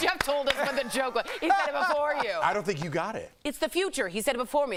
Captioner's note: applause